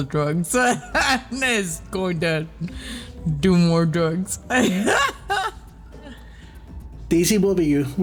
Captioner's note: laughs